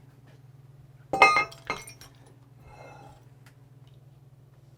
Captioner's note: clanking